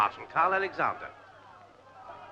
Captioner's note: crowd shouting